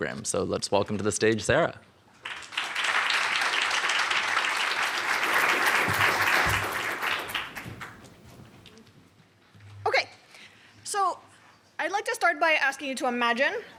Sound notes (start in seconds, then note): 2.2 applause